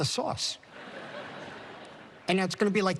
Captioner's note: laughter